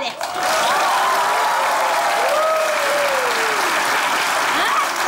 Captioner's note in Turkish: Alkış sesleri